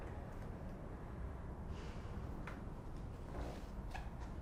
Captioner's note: sighing